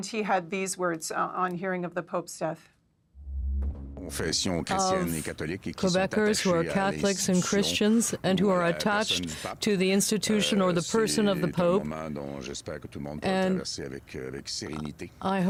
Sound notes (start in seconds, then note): 9.6 speaking French